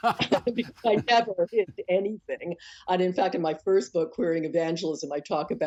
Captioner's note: laughter